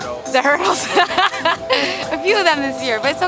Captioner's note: laughter